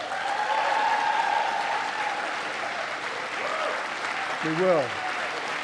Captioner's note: applause